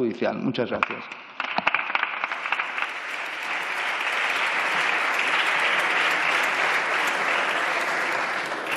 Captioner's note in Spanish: Aplausos